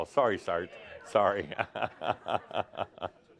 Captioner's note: Adamus laughs